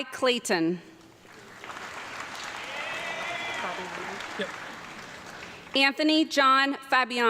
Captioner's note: audience clapping and cheering